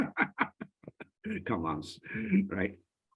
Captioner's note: laughs